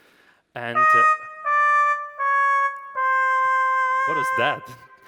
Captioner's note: horn blowing failure